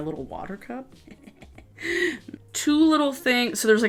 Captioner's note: chuckling